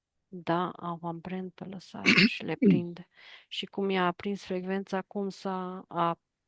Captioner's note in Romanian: voce dreasă